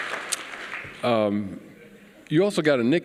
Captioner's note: applause